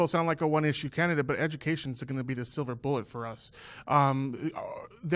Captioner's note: none